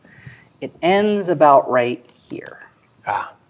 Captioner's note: pen tapping